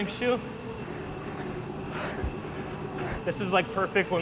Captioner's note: heavily breathing